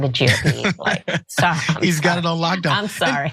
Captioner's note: laugh